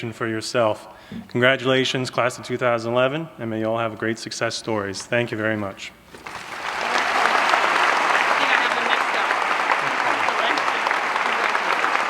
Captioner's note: applause